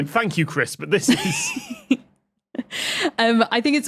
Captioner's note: both laughing